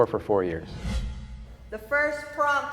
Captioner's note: air whooshing